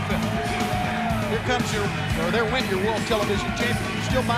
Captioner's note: crowd cheering